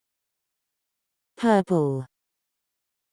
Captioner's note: TouchChat voice